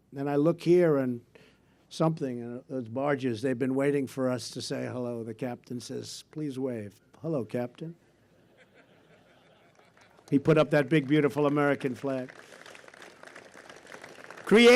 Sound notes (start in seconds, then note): 8.3 laughter; 12.9 applause